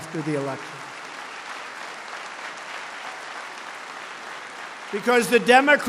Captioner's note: applause